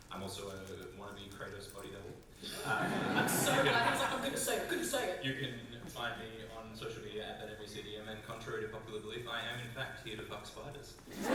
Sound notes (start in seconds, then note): 2.4 audience laugh; 11.1 audience laughter, woohoos and applause